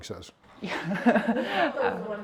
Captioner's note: laughing